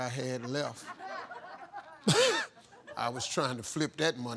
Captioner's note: laughing